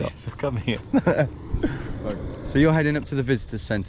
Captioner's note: laughs